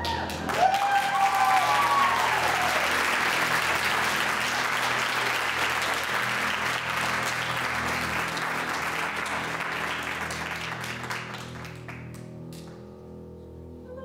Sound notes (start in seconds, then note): 3.3 audience applauds